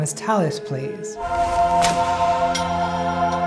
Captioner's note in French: Smack !